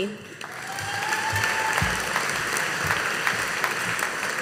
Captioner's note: audience applauding